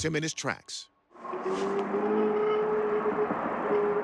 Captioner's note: eerie howl